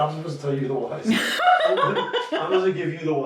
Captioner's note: laughs out loud